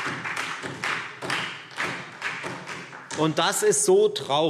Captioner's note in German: Beifall Freie Demokraten und SPD